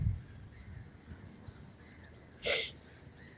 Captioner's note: birds chirping